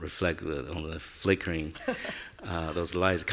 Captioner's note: laughing